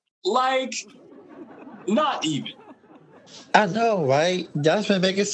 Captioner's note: audience laughing